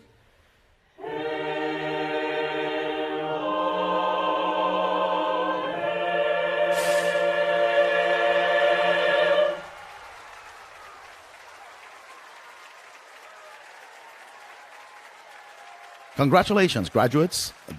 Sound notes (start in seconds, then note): 9.2 applause and Cheering